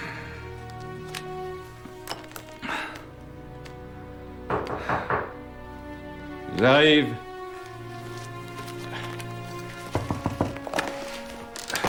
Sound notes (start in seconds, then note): 4.5 knock on door